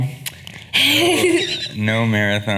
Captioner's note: laughing